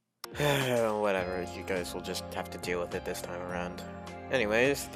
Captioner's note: sigh